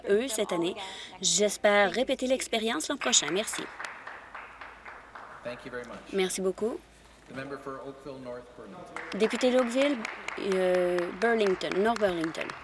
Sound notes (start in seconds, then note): 5.7 some Applause